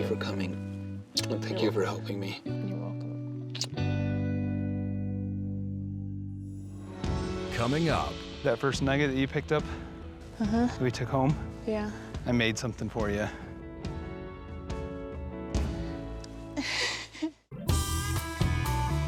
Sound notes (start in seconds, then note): 15.7 crying